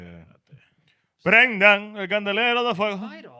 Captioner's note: speaking In Foreign Language